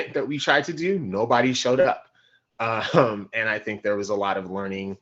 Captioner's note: laughing